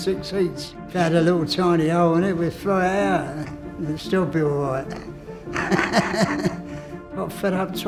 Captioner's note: laughs